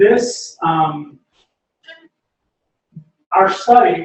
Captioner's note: pause